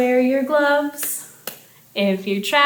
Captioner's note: hands clapping